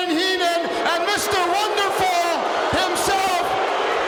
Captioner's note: audience booing